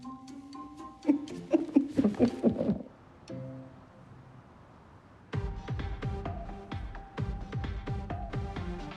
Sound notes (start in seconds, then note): 0.9 laughing; 5.3 rhythmic music